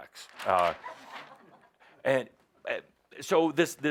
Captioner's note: laughter